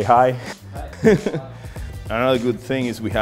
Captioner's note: laughter